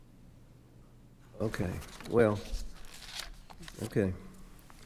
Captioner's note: pages rustling